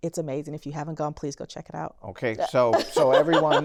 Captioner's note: laughter